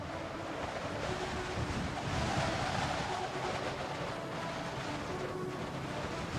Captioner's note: wind blowing; upbeat music